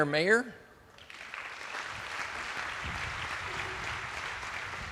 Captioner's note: attendees applauding